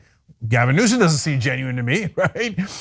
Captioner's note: laugh